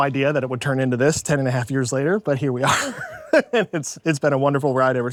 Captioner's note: laughs